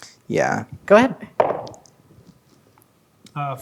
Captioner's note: dice rolling